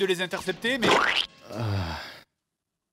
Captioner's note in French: bruit de gelée + bruit érotique